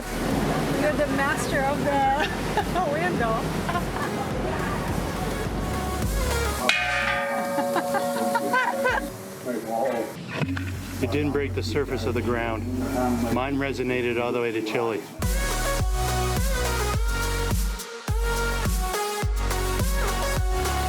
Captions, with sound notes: You're the master of the window [dings] -You didn't break the surface of the ground. Mine resonated all the way to Chile.